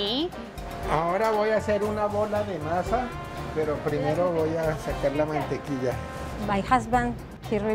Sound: speaking in Spanish

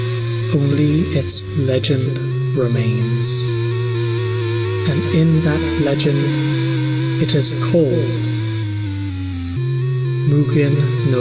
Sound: final spooky bell toll

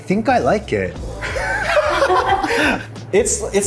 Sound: both laughing

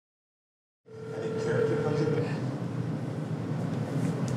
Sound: phone Rings

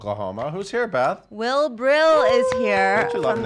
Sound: cheers

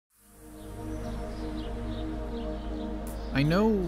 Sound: birds chirping

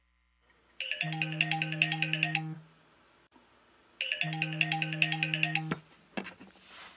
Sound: cell phone ringing

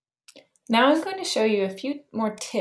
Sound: voiceover

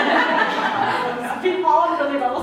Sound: laughter

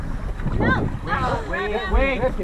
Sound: groans

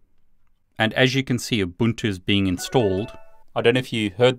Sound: jingle dings

